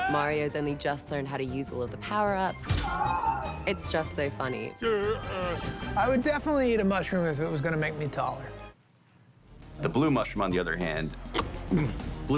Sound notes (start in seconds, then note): 2.8 muffled scream; 11.3 chomps